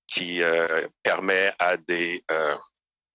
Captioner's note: speaking French